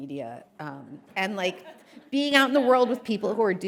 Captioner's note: audience laughing